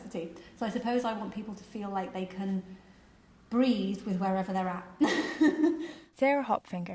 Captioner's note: laughs